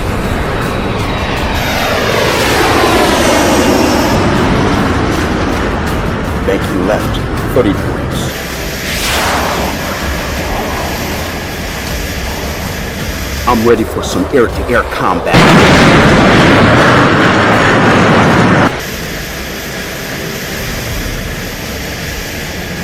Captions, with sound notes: (jet plane engine roaring) Banking left, 30 degrees. (jet buzzing) I'm ready for some air-to-air combat. (engine roaring)